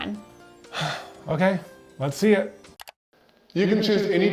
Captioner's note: sighs